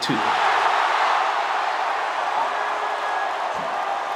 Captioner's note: crowd roars